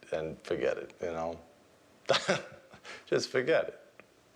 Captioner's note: laughs